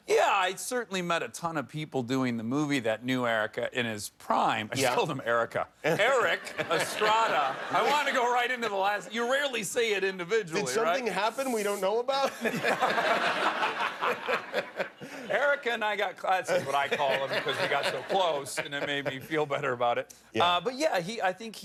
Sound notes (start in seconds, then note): 12.2 laughter